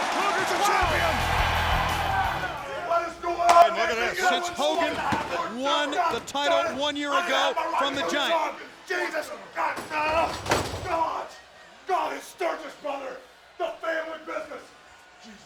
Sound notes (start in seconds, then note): 0.8 upbeat music; 9.9 table thudding